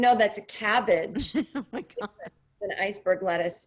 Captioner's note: laughing